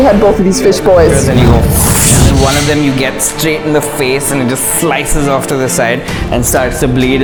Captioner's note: swoosh!